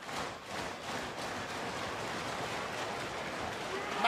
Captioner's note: clapping